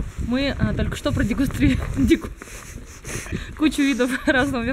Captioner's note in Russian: смех